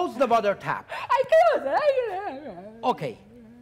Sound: softly whimpering

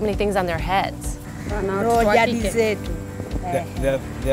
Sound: speaking swahili

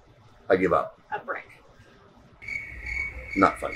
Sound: crickets

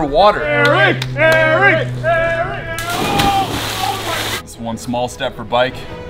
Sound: cheering

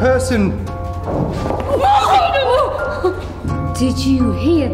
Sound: distant banging

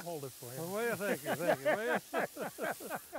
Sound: laughing

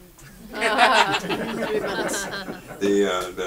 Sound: audience laughs

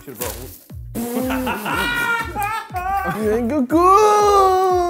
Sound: laughing

